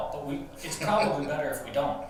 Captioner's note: laughing